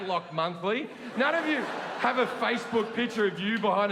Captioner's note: audience laughing